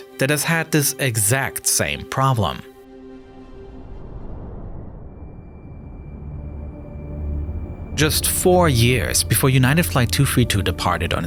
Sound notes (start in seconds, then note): 2.8 airplane whooshing; 3.9 dramatic music